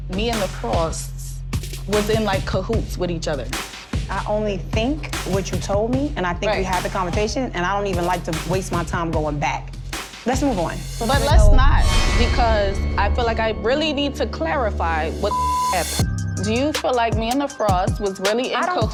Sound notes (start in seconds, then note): 15.2 beep